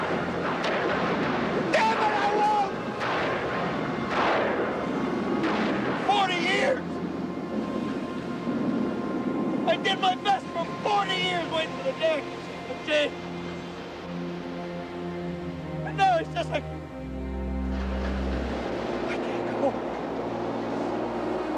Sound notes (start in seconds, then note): 5.4 thunder